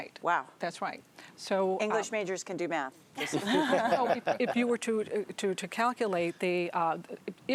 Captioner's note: laughter